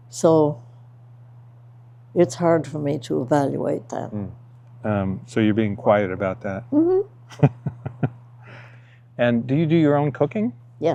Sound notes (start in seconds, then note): 7.3 host laughs